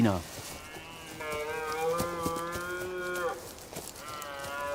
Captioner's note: deer calling